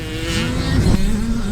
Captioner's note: whoosh sfx